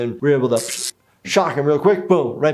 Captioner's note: imitates shocking sound